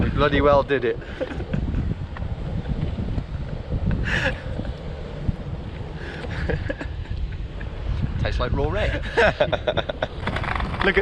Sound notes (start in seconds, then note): 1.8 continues laughing; 8.9 laughs